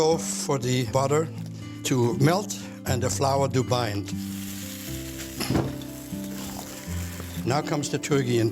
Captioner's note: sizzling